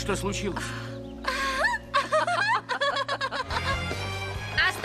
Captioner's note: both laugh